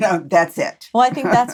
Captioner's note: laughs